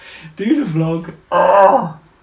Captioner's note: groans